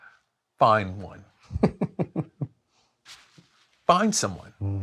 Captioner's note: laughs